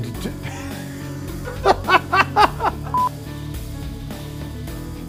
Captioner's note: laughing